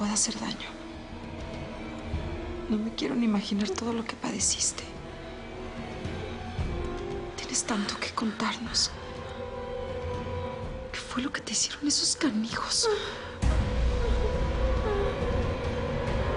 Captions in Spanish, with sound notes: ...A NADIE QUE TE PUEDA HACER DAÑO. NO ME QUIERO NI IMAGINAR TODO LO QUE PADECISTE. [Gemidos suaves de Josefina] !TIENES TANTO QUE CONTARNOS! ¿QUE FUE LO QUE TE HICIERON ESOS CANIJOS? [Gemidos de Josefina]